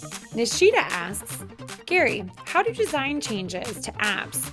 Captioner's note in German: Voice-over